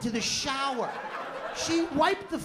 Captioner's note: laughter